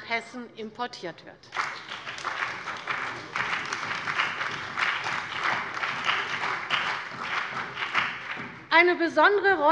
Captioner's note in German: Beifall bei der CDU und dem BÜNDNIS 90/DIE GRÜNEN